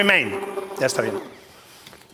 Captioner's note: spanish